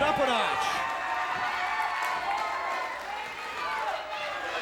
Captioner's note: audience cheers